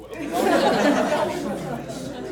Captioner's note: laughs